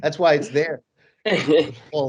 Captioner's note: laughs